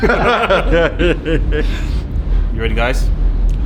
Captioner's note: all laugh